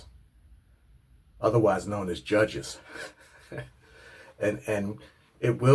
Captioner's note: laughs